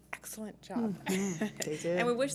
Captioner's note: laughs